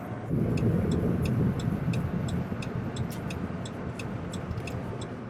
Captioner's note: turn signal blinking